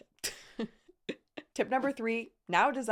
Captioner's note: laughing